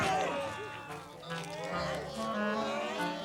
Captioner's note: devils groaning